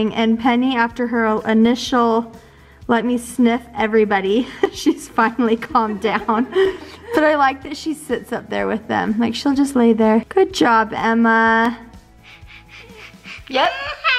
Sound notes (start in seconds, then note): 4.4 chuckles; 12.1 sniffing